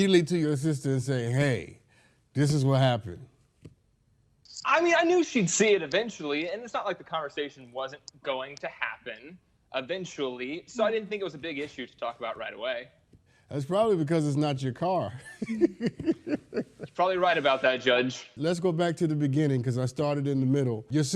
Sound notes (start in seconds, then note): 15.2 laughs